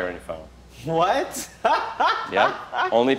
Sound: laughs

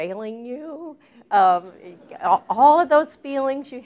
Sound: laughter

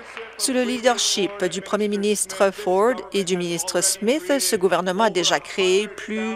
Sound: applause

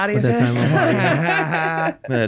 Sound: group laughs

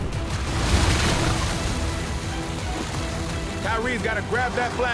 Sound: water splashing

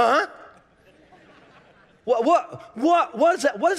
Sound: congregation laughing

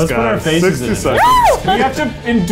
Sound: lady screams

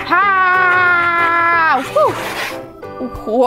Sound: roaring

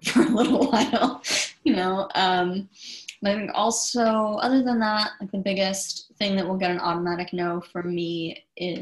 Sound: chuckles

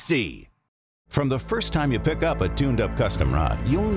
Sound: voiceover

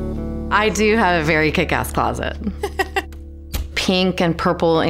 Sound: laughs

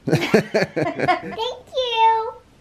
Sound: laughter

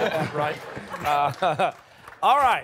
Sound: laughter

